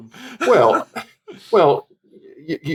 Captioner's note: chuckle